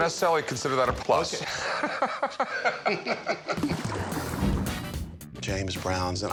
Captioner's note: laughs